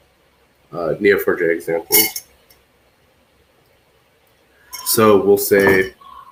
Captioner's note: metal clanking